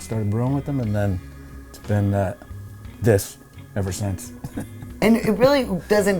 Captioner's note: laughs